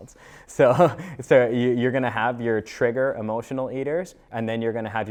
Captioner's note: laughs